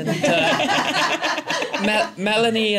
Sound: laughter

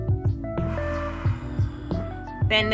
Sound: sighs resentfully

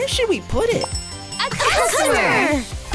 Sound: bell rings

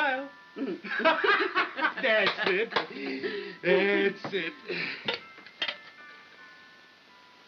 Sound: laughter

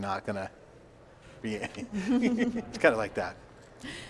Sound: laughing

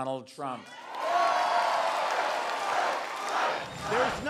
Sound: crowd

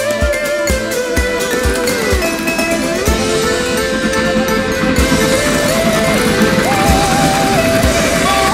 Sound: sound of approaching steam train

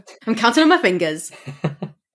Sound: laughs

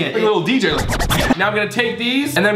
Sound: record scratching

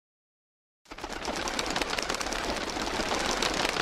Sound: birds fluttering sound

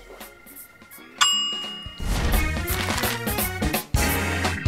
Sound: bell sound

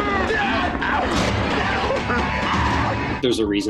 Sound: yelling

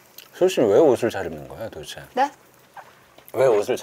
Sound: eating

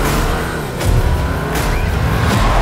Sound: car sounds; rock music plays

